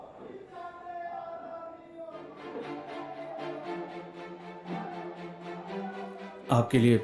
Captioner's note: chants